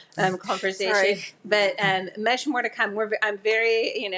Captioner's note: laughs